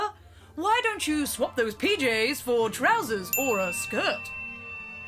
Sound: ping

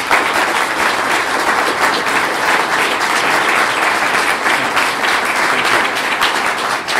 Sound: clapping

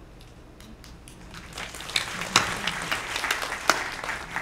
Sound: applause

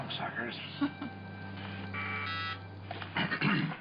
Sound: telephone buzzing

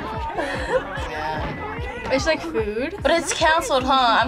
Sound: laughs

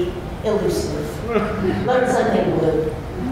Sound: laughter

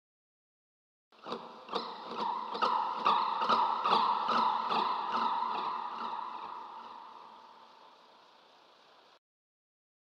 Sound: creatures chirp

